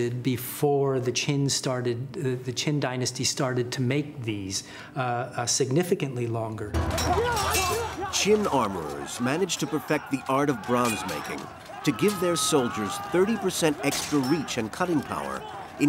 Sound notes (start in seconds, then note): 6.9 soldiers yelling; 6.9 weapons clanking